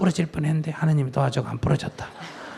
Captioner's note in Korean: 청중 웃음